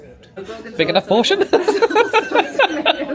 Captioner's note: laughs